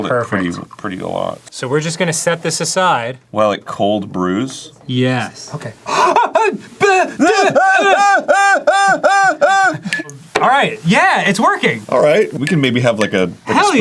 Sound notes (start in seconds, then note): 5.8 delighted gasp of wonder; 6.8 both stammering as the coffee does a thing